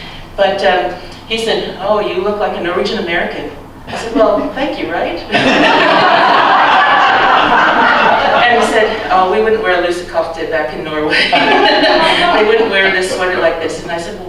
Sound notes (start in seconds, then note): 5.3 laughter; 11.1 laughs